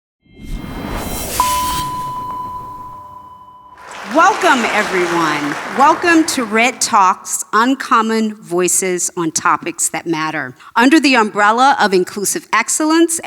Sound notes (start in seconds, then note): 0.2 whooshing; 1.4 beeping; 3.7 audience applauding